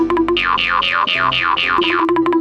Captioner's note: cartoony blooping; boinging; cartoony bopping